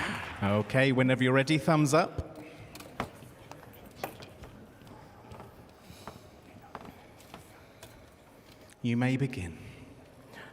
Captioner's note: applause